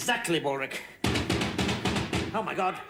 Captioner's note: pounding on door